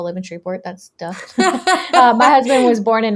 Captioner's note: laughing